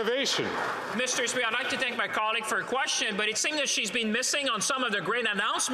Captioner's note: some Applause